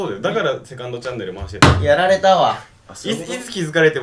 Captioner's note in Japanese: バン